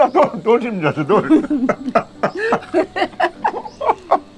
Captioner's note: both laughing